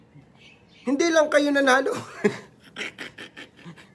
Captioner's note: laugh